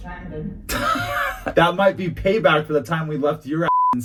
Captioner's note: laughs